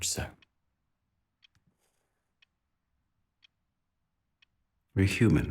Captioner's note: clock ticking continues